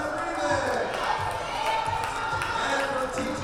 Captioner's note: cheering and applause